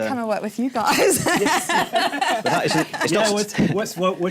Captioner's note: laughter